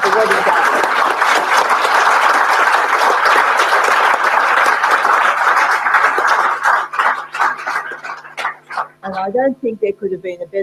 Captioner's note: applause